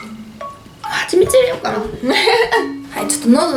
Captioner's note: laughs